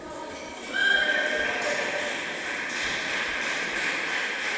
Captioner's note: applause